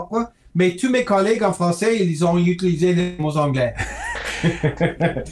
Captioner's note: speaking French